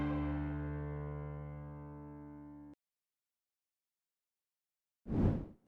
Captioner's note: whoosh